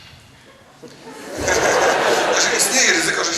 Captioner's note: audience laughs